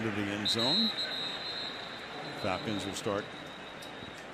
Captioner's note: whistle